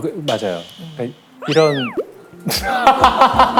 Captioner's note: Moo Yul said Seung-ah is pretty / Murmuring